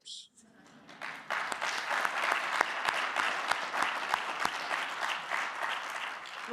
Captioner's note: audience clapping; clapping